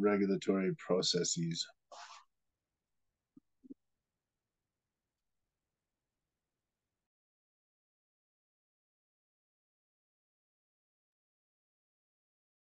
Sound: long pause

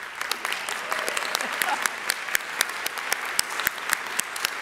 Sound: audience applauding

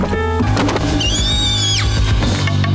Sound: screaming

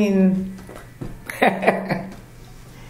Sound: laughing

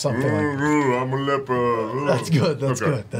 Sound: moans in pain

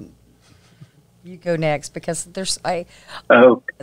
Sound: laughs

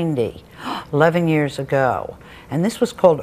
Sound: gasps

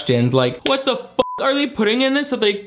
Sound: beep

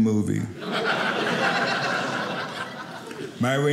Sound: audience laughing

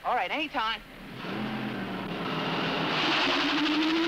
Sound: engine noise

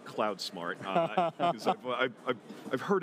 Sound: chuckles

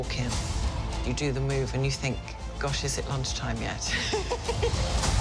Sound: laughing

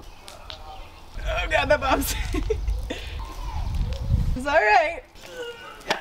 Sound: laughs

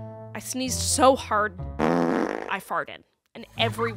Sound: fart

